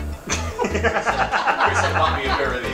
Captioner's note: all laugh